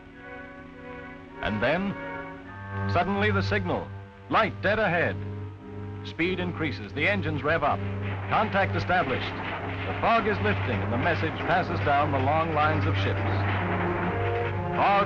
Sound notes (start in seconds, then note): 1.2 voiceover